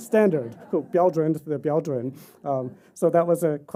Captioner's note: speaking chinese